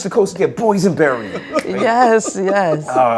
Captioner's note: laughter